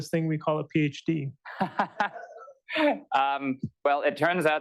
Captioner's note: laughter